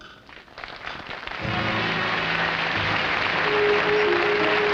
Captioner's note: audience applauding